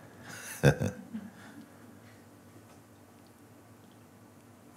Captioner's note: lacht